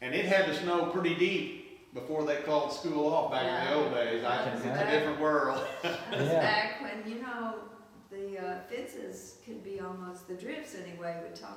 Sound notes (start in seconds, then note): 5.4 laughs